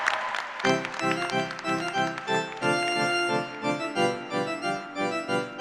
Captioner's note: cheers and applause